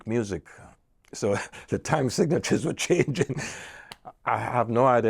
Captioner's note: chuckles